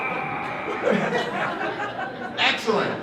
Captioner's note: laughter